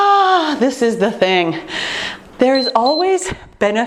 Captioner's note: timer beeping